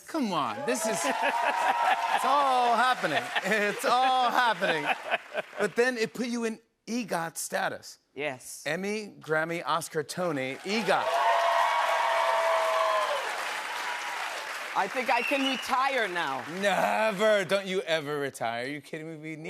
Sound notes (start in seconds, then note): 10.5 cheers and applause